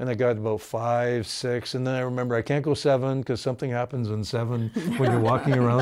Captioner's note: laughing